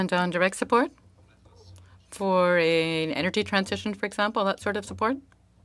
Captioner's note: speaking French